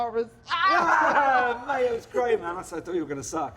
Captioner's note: laughter